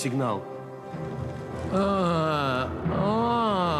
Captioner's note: groaning